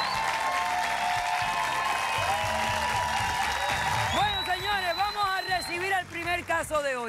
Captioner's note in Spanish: Aclamaciones